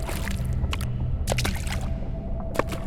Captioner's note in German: Wasserplätschern